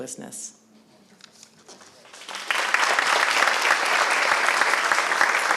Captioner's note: applause